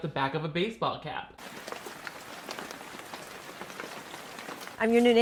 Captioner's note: rain pattering